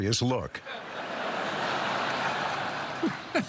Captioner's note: laughter; David Letterman chuckles